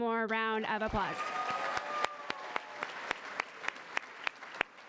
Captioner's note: applause